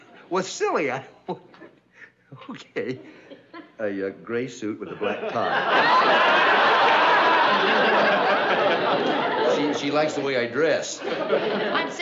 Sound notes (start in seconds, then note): 0.0 giggles; 3.9 whispering